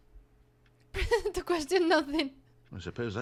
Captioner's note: laugh